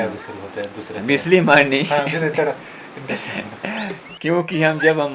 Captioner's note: laughs